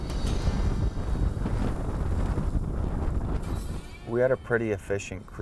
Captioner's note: wind noises